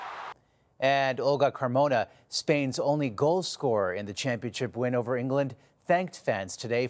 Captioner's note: cheering